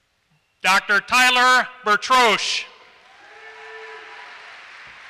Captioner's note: applause